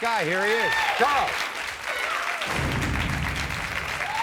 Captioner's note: crowd clapping